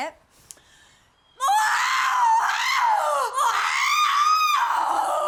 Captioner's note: vivien screaming